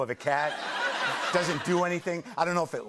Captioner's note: laughter